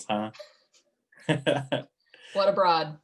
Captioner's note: laughs